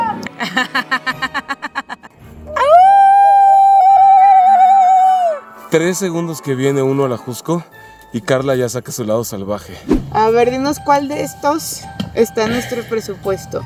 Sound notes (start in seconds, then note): 0.3 laughter; 2.5 howling